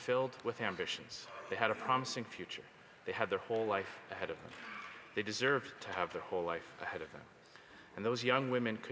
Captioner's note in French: voix de l'interprète